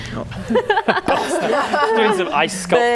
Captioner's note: laughing